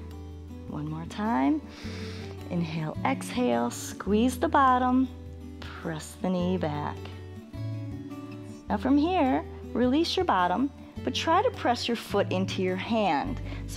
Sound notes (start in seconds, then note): 1.7 inhales